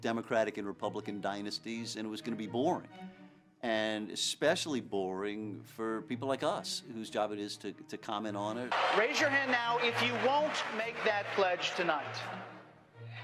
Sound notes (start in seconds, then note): 8.7 cheering